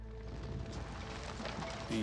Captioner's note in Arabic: طقطقة النار